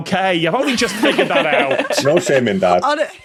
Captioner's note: laugh